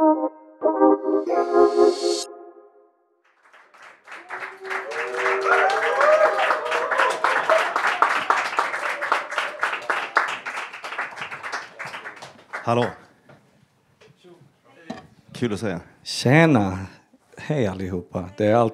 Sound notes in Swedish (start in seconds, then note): 3.2 Applåder